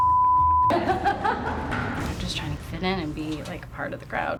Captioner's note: laughs